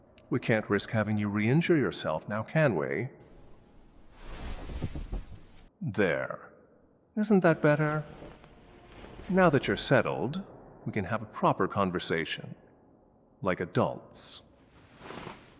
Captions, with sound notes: We can’t risk having you re-injure yourself, now can we? (sound of listener settling back on the bed) There. Isn’t that better? Now that you’re settled, we can have a proper conversation. Like adults.